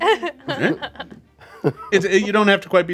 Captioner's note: group laughs